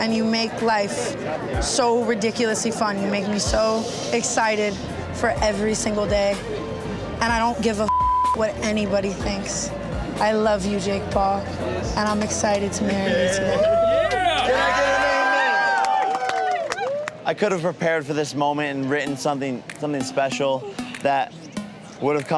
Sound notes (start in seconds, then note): 7.8 beep; 13.1 crowd cheers